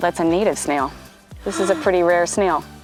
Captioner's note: gasps